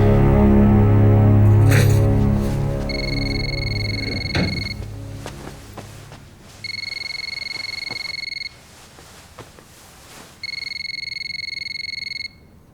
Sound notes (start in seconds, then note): 3.1 phone ringing